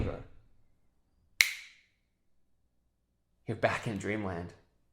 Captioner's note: snaps a finger